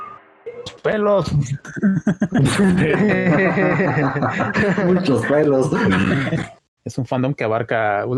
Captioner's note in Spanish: Risas